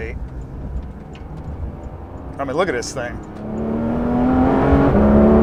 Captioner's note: engine revving